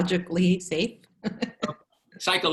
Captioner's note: laughter